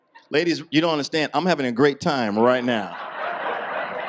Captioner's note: audience laughs